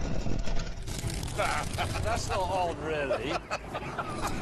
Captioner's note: jeremy chuckles